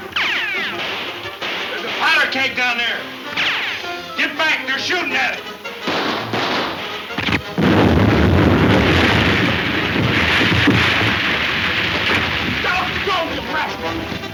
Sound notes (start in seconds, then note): 5.0 guns firing; 5.8 keg exploding